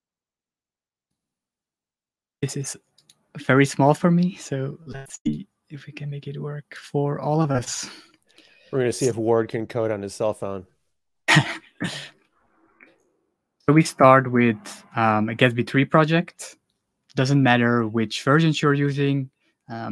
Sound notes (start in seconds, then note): 11.2 laughs